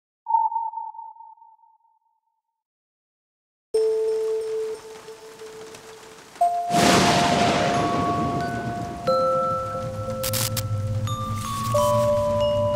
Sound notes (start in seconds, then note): 6.6 thunder crashing; 10.1 light crackles